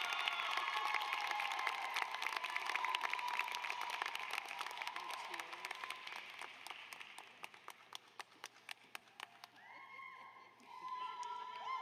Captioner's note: applause